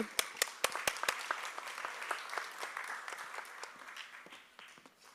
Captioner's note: applause